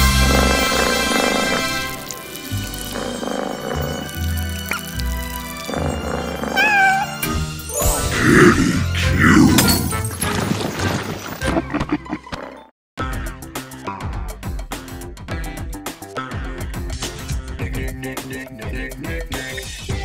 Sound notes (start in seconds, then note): 0.1 purring; 6.4 meowing; 11.3 laughing